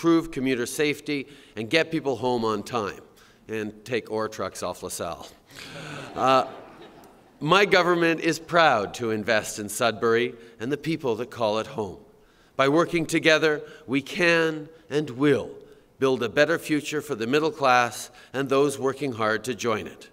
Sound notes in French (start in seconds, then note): 5.5 Rires